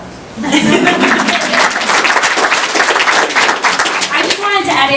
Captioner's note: chuckles and applause